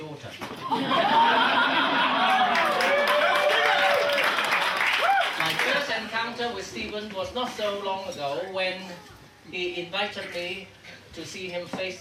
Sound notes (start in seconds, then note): 0.6 audience laughing; 3.4 audience cheering